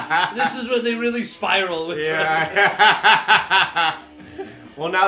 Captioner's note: laughter; laughter